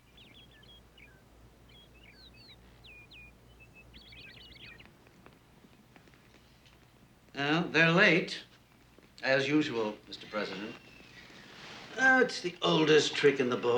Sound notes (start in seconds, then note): 0.0 birds singing; 4.8 fire crackling; 10.1 door squeaking